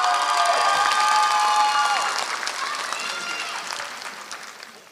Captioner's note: applause